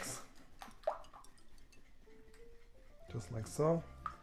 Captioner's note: whisking mixture